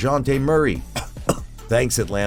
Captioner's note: cough Cough